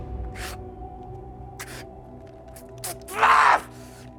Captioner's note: Nathan crying; Nathan screams